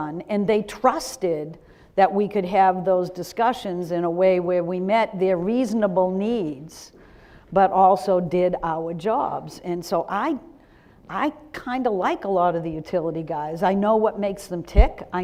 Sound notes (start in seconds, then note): none